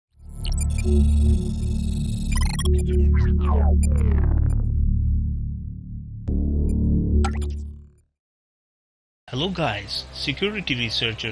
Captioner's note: intro sound